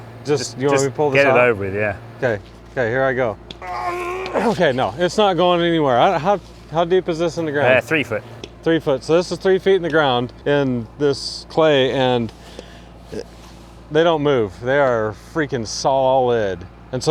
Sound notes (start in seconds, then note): 3.6 groans